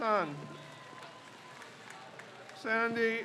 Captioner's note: crowd cheers